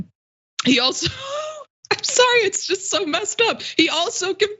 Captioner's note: laugh